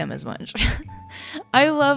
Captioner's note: laughs